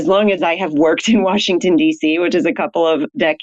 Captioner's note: laughs